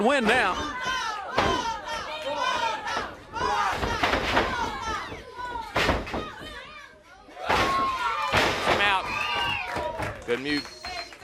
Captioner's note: crowd cheering